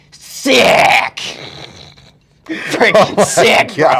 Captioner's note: laughs